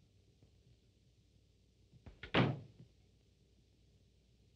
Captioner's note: door closing